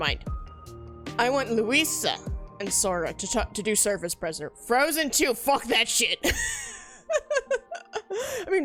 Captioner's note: laughs